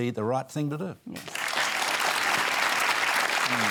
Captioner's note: applause